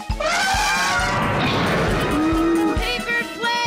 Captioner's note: elephant squeals